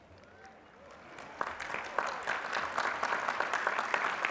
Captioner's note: applause